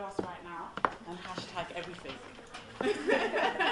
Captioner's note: laughs